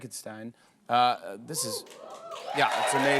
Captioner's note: cheers and applause